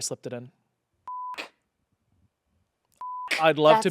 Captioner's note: beep